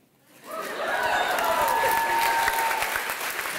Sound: applause

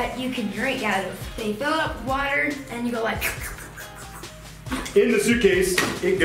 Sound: slurping

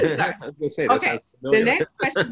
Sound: chuckles

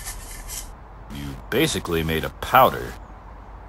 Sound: none

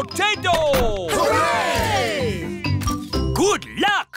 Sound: camera shutters clicking

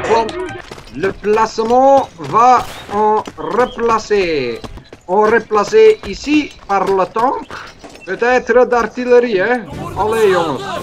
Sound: horrible french

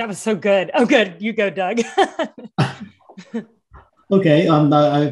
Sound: laughs

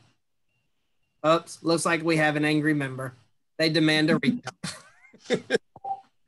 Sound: laugh

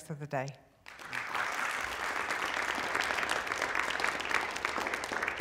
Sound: applause

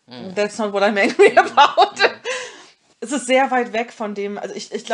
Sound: laughs

